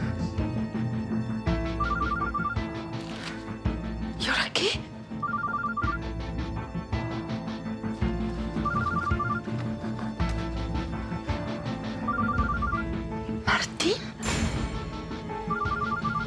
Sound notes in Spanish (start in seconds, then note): 5.2 suena el celular; 8.6 suena el celular